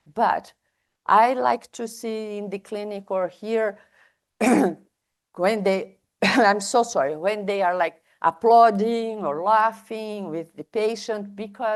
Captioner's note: coughs